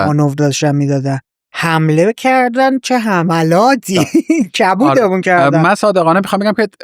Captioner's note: laughs